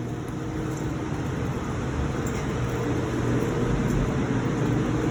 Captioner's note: machine engines whir